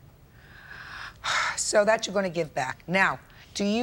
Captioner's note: exhales sharply